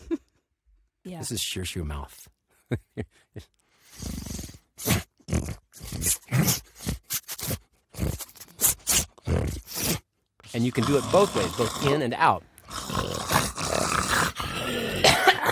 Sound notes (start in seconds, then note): 3.8 growling, snuffling; 12.6 all growling, snuffling